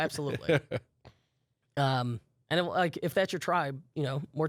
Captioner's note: laughs